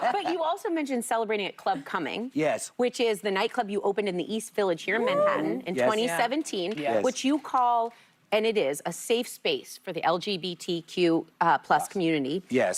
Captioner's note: laughter